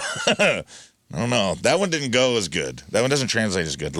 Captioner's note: laughing